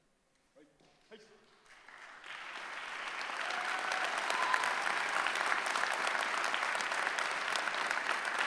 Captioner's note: cheering